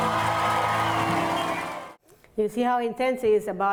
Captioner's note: audience cheers